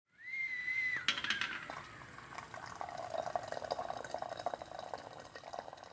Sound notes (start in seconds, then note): 0.2 sound of tea kettle whistling and hot water pouring into a tea cup